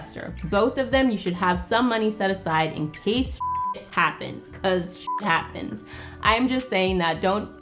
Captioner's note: beep